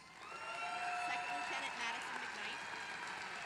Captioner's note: applause